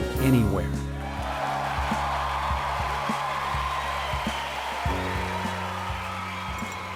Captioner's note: rapturous applause